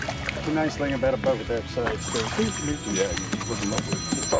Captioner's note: phone ringing